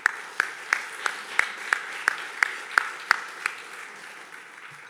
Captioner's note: everyone clapping